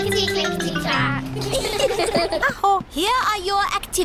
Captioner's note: all giggle